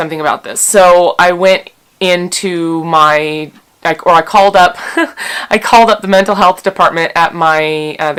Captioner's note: slight giggle and smile